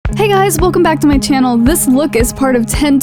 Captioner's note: voiceover